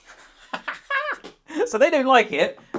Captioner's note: laughing